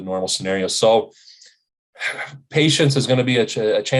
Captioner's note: sighs